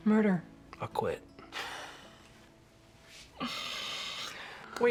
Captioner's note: laughs